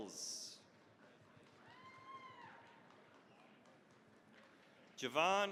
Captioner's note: cheering, applause